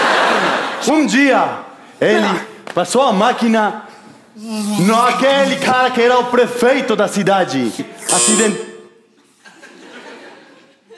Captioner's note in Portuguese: campainha